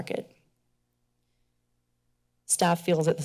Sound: pause

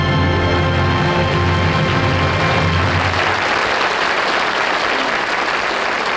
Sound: audience applauds

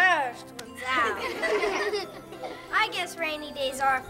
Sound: everyone laughs

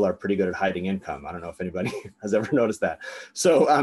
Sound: laughs

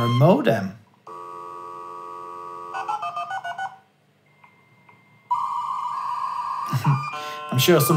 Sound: modem sounds

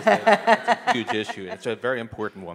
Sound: audience laughing

